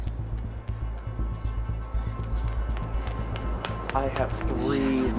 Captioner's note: footsteps clacking